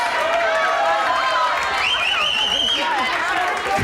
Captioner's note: audience cheers